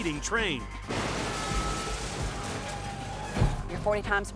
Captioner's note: vehicles thudding